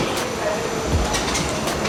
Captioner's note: background chatting; soft dreamy electronic music